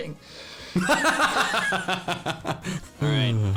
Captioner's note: laughing